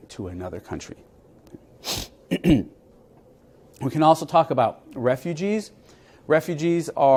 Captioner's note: cough